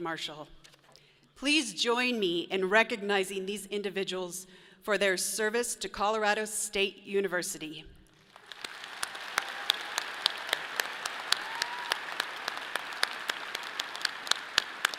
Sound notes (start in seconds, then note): 8.2 audience applauds; 12.2 people cheer